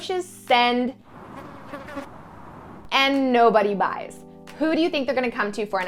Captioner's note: wind howling and fly buzzing